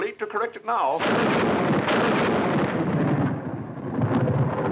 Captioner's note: thunder crashing